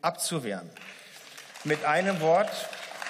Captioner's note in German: Beifall